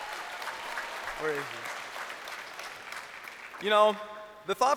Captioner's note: crowd applauding